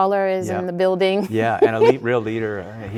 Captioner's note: chuckling